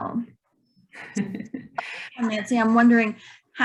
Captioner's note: chuckling